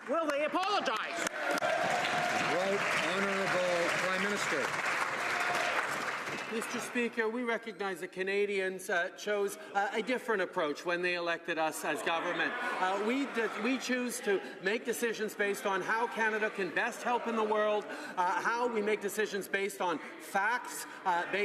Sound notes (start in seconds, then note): 6.6 cheering/Applause